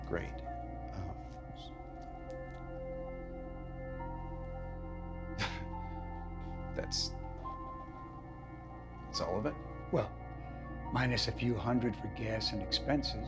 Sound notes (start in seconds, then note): 3.7 ben laughs